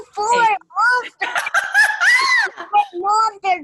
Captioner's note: laughs